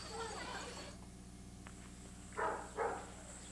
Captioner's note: dog barking